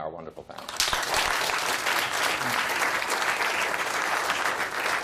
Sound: applause

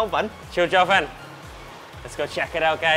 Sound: speaking in foreign language

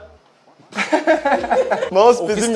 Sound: laughter

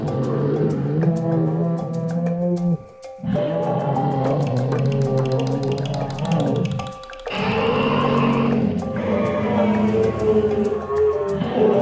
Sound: dinosaur Herd Sounds

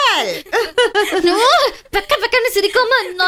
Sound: laughs

